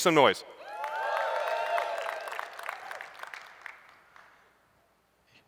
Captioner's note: cheering and applause